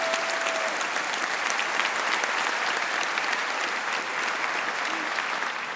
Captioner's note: applause